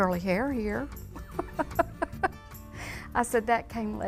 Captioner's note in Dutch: lacht